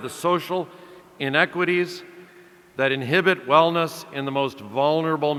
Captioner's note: none